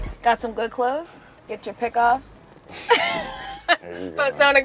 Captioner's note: laughs